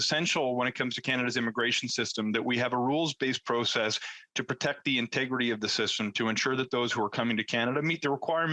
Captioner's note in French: voix de l'interprète